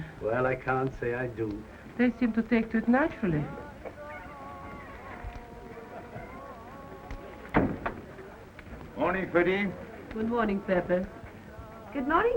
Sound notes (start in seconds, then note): 6.1 people chattering